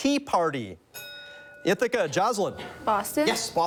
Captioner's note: bell dings